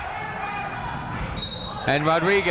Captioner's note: whistle tweeting